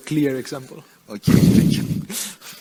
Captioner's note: laughs